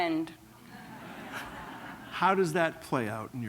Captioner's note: laughter